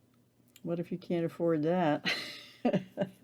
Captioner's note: chuckle